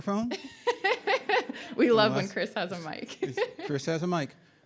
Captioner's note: laughs